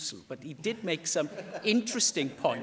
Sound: laughter

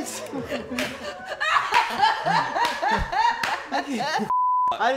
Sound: laughing continues

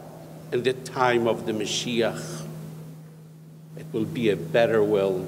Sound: speaks foreign language

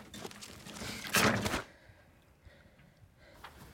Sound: sighing

